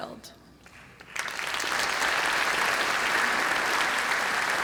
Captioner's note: applause